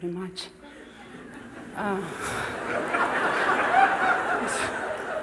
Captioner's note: laughter